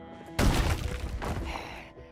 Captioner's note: door breaking